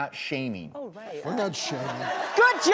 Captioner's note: audience laughing